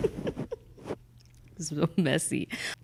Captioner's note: laughing